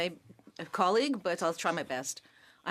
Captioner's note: speaking French